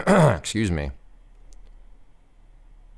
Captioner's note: clear throat